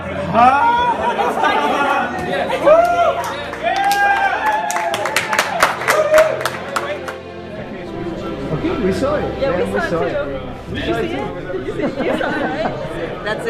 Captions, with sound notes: (laughing) (cheering) I think, we saw it.